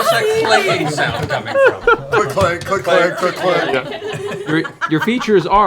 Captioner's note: clanking noises